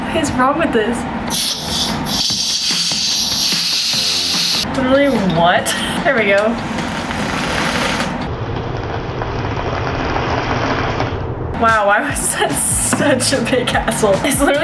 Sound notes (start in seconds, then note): 1.2 can hissing; 7.2 slow fizzing